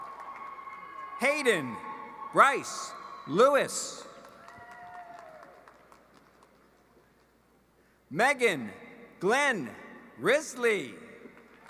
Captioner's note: cheering and applause